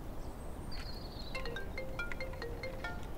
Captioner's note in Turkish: Telefon çalar